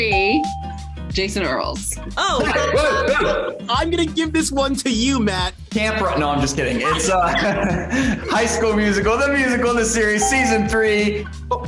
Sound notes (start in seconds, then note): 0.1 bell rings; 2.3 laughs; 6.1 both laugh